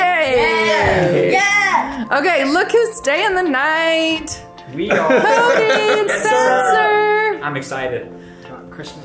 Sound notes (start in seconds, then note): 0.6 laughs; 4.9 laughs